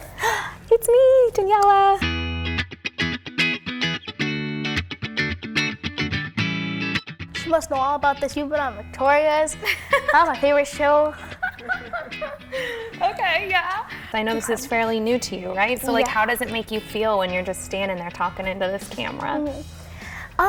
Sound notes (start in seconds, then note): 0.0 gasps; 2.1 upbeat guitar music; 11.1 Daniella laughs